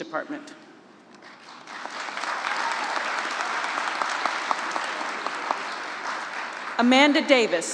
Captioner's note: applause